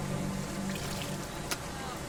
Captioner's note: slapping against rocks